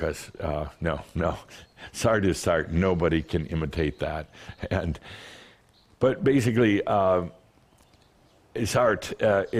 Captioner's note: Adamus chuckles